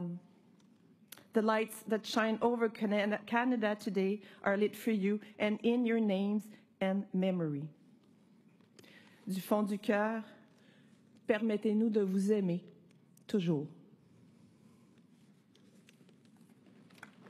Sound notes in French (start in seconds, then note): 7.5 voix de l'interprète